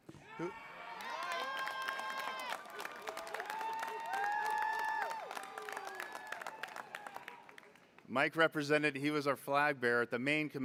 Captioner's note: applause